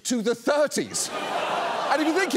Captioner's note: audience laughs